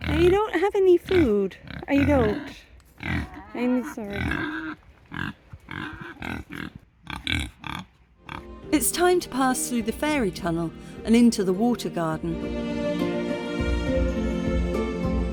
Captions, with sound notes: I don't have any food. I don't. I'm sorry. [pigs grunting] It's time to pass through the fairy tunnel and into the Water Garden. [relaxing music]